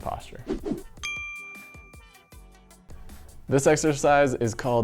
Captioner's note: bell chimes